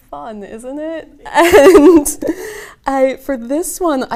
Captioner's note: laughs